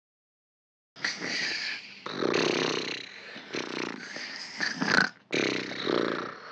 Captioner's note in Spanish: Ronquido